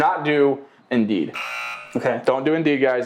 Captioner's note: buzzer beeping